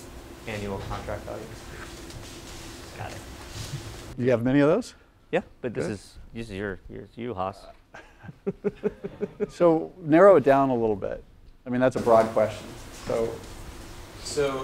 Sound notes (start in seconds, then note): 7.9 laugh